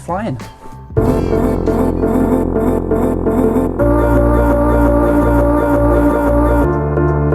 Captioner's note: upbeat music; engine purrs